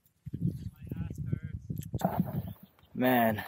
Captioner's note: none